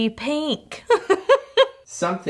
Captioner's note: laughing